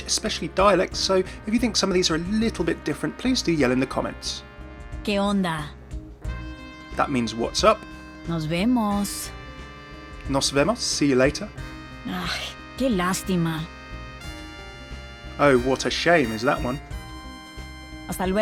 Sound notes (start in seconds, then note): 5.2 Sombra speaking in foreign language; 8.5 Sombra speaking in foreign language; 10.6 speaking in foreign language; 12.3 Sombra speaking in foreign language; 18.2 Sombra speaking in foreign language